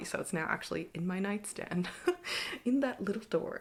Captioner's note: chuckles